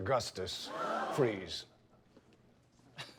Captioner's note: gasps